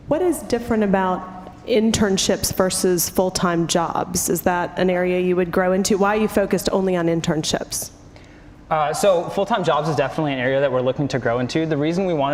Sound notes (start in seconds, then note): none